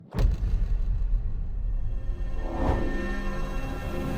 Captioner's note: swoosh sound